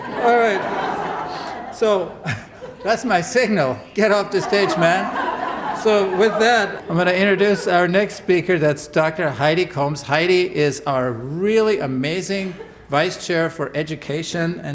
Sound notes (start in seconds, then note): 0.0 laughter